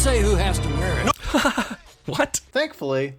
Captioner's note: laughs